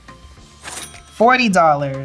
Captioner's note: cash register dings